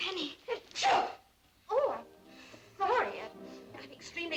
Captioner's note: sneezing